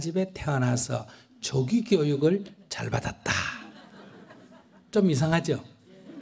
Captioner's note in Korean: 청중 웃음